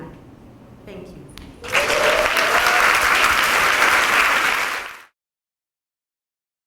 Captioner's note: applause